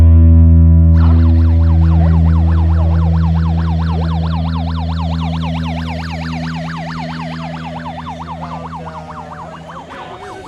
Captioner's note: siren blaring